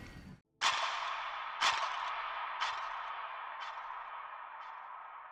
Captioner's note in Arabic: الرعد المتداول; صاحب الحيوان الأليف يتحدث بهدوء; رنين صدى غير معروف